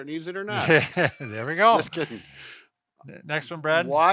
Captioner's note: laughing